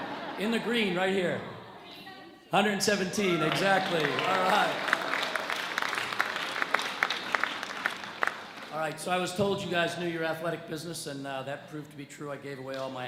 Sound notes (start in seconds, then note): 5.9 audience cheers